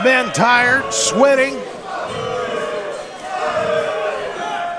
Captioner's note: audience booing